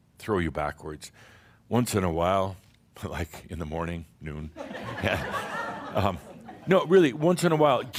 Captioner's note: laughter